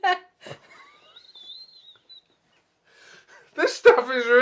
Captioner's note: both laughing